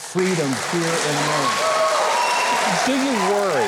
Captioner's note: applause